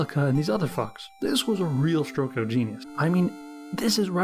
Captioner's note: sarcastic tone